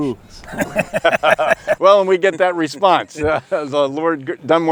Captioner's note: laughs